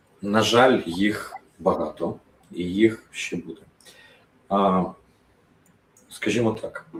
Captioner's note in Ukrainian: сопіння